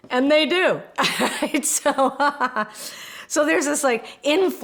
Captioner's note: laughs